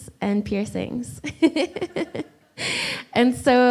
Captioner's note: laughs